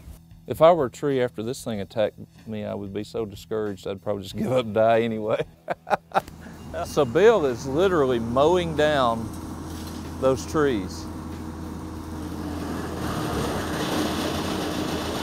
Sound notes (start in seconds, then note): 5.4 laugh